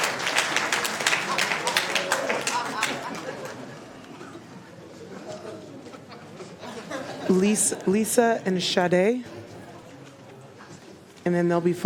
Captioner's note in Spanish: Aplausos